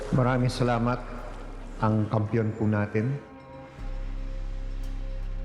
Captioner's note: speaking in foreign language; dramatic music